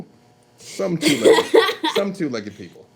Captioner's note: loud laughing